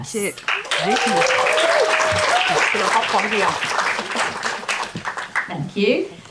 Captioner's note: audience applause and cheering